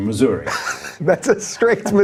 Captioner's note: laughing